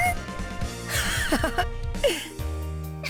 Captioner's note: laugh